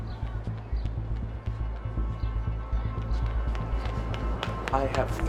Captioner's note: footsteps clacking